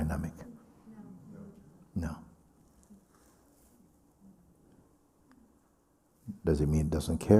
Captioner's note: voices in group